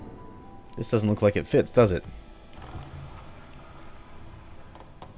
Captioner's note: wood "wall" sliding